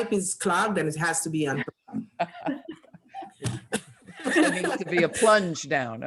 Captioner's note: all laughing